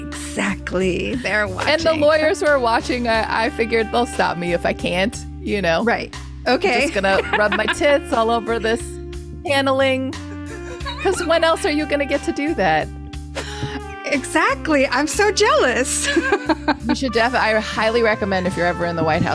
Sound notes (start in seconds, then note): 6.7 laughs; 16.0 laughs